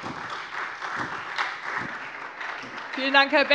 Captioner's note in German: Beifall SPD und vereinzelt Freie Demokraten